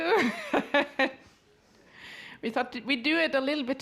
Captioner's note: laughs